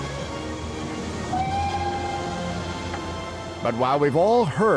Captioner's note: <i> train whistle toots</i>